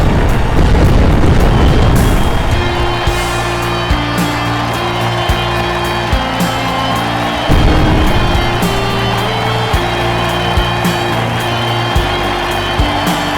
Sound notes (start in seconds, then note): 1.8 🎼 Patriotic Music🎵; 1.9 👏 Cheers😮; 2.0 💥🧨 Fireworks 💥